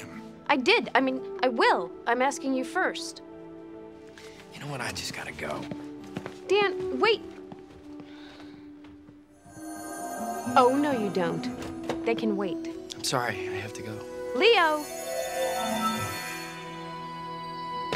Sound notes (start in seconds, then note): 9.4 shimmer; 15.8 shimmer